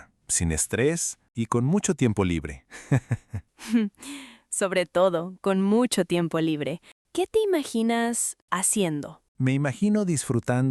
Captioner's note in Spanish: risas